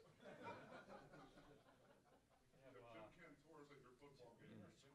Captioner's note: laughter